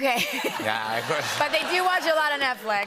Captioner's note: laughter